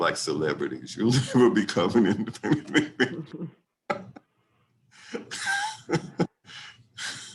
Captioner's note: laughs